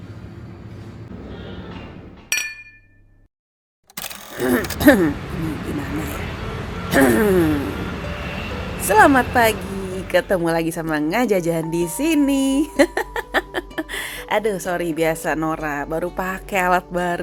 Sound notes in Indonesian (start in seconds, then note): 6.9 berdehem; 11.3 tertawa